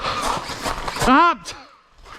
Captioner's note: angry AEG noises